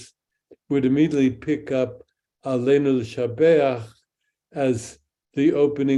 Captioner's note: speaks in Hebrew